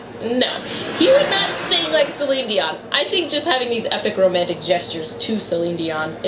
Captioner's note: laughter